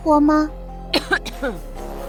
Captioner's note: cough cough